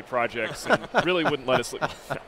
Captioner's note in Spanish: se ríen